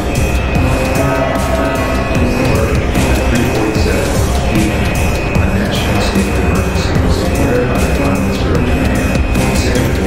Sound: announcement Chime

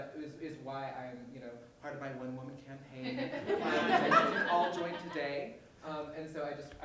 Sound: laughter

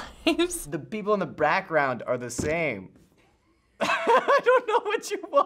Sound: laughs

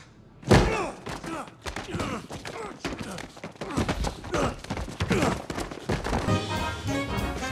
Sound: rolling sounds

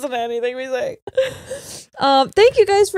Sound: both laughing

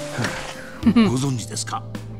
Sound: chuckles

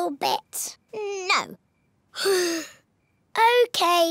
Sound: sighs

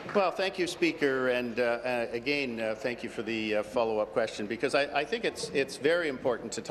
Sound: applause

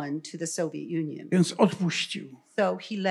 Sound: foreign language

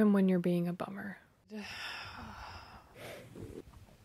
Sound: sigh

